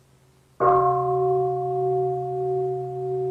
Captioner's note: bell